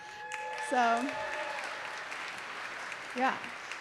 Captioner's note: applause